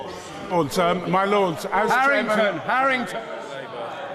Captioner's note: chatter